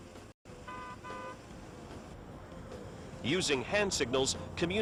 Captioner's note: car horn blowing